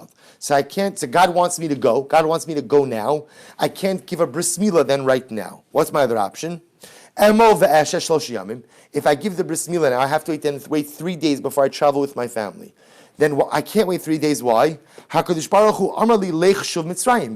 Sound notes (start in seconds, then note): 7.6 Hebrew; 16.7 Hebrew